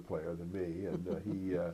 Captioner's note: laughter